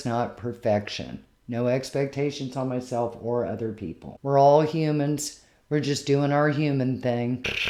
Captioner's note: cat snuggle-purring